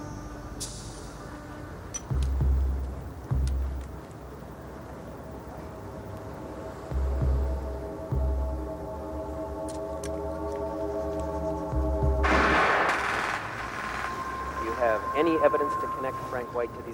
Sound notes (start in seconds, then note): 12.2 gun firing